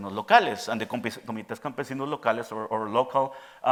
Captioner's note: speaking in Spanish